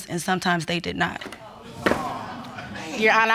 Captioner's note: audience exclaims